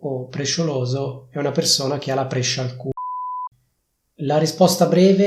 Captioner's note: beep